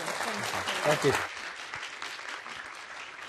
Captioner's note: applause